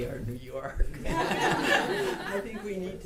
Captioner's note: audience laughter